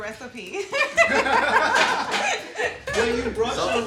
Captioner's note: all laughing